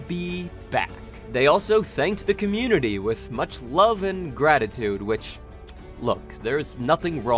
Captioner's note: tsks